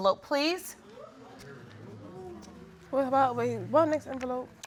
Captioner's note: audience murmuring; stammering